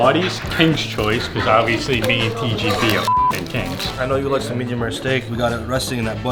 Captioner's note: beep